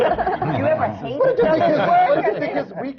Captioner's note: laughter